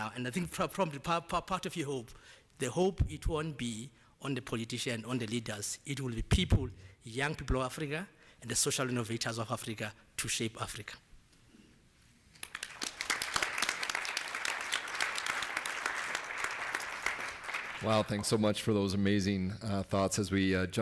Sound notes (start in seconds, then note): 12.3 applause